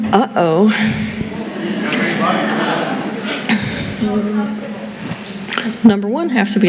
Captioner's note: murmuring